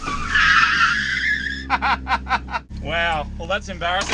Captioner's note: laughing